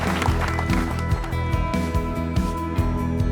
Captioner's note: clapping and Whistling